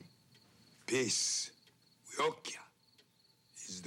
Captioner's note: speaks Indigenous language